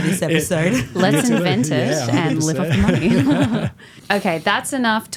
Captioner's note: laughing